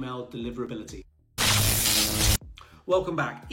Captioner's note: electric buzz